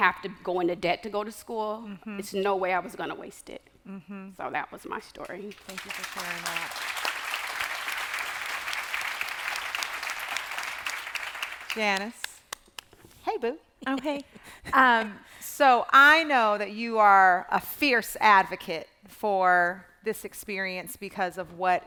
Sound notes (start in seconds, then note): 5.6 applause